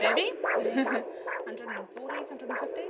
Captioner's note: they laugh